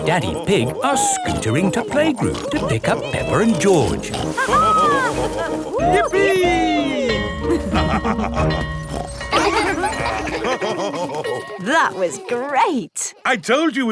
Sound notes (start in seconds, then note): 7.4 both laughing; 7.6 school bell ringing; 8.3 daddy pig snorts; 10.5 children laughing; 10.5 daddy pig laughing